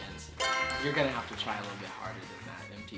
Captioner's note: answer board chimes; crowd claps